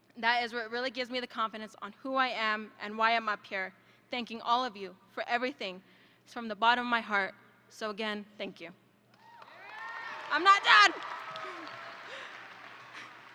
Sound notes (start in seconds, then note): 9.2 audience applauds and cheers